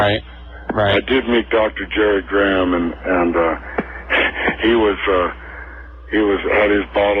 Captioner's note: laughs